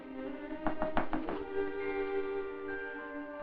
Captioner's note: knock at door